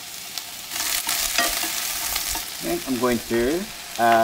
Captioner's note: vegetables sizzling